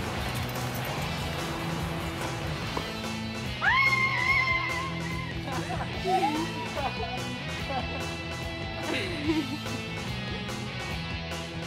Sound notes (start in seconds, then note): 0.0 joyful holiday music; 3.5 screaming; 5.7 soldier laughing; 8.6 cameraperson laughing